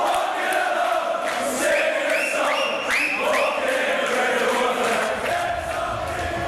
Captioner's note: crowd continues chanting "Ole, Ole, Ole"